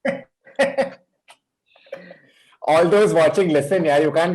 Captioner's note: chuckles